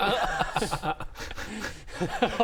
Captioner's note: laughs